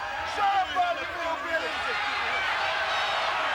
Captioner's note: people chattering indistinctly; crowd cheering